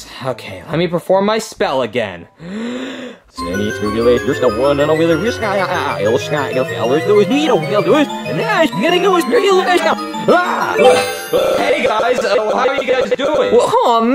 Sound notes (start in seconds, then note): 2.4 inhaling; 3.1 Junior speaking backwards; 3.4 dramatic music